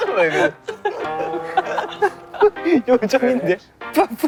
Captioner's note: unable to hold the laughter